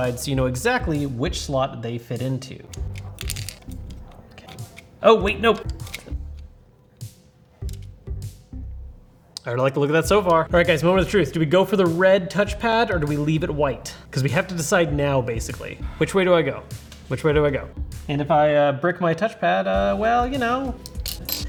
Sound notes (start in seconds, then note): 2.7 controller parts snapping together